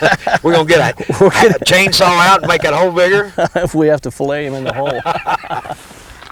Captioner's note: laughter; laughter